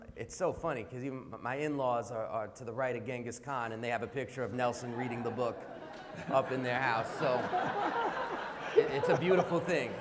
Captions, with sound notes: It's so funny, because even my in-laws are to the right of Genghis Khan and they have a picture of Nelson reading the book [laughter] up in their house so, it's a beautiful thing.